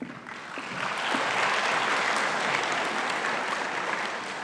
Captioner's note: audience applauding